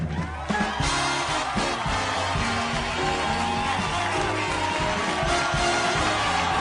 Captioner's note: audience cheering; upbeat jazzy music